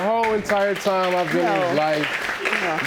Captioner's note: audience applauding